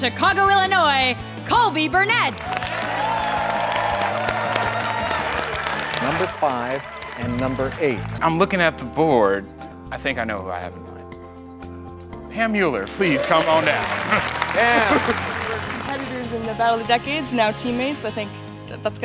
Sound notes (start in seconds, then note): 2.3 applause